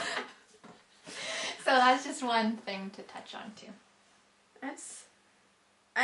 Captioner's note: laughing